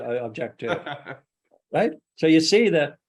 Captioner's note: laughs